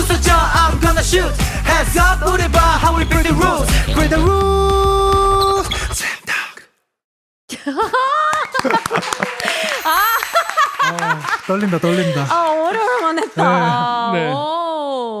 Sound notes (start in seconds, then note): 8.1 applause!!!